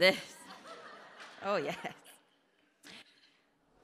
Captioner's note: audience laughter